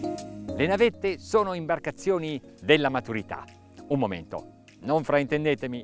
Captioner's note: speaking in foreign language